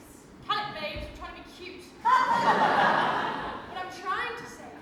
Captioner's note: audience laughs